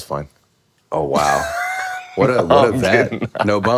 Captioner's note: Finn laughs